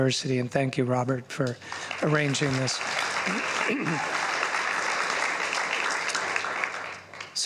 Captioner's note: applause